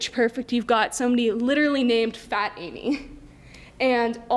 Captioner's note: laughs